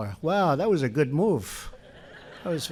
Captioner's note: laughter